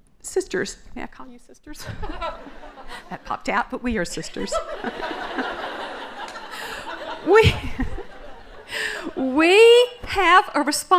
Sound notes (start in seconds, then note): 4.3 laughter